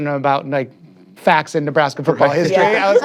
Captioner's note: all laughing